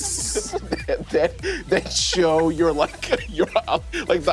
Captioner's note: laughs; players giggling